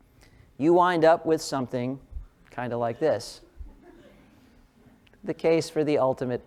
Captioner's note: laugh